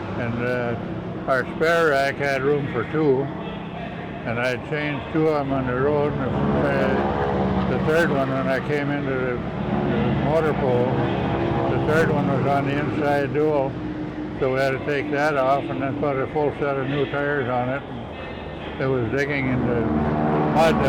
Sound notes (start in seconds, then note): 6.3 plane droning overhead